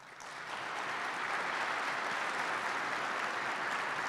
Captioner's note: participants clap